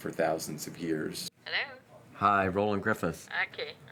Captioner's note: voiceover